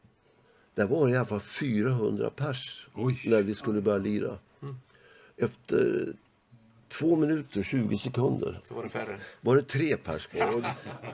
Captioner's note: laugh